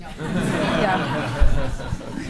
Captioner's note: laughter